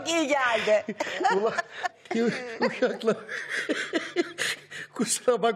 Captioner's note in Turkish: Gülme sesleri